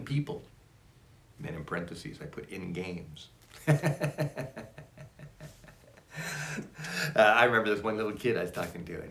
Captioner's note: laughs